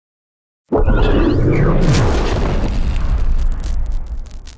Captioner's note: logo crackles